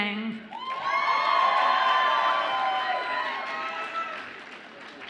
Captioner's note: audience applauds and cheers